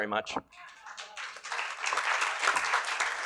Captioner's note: applause